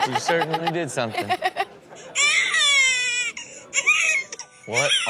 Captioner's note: host and audience laughs; baby crying